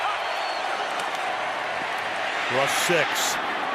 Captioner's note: crowd cheering